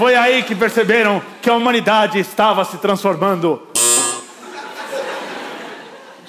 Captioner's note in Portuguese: campainha